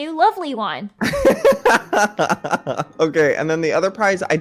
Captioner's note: laughs